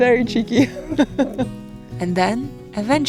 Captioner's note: laughs